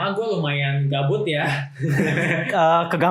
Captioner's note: laughter